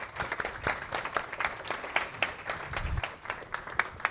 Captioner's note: applause